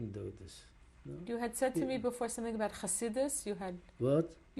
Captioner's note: hebrew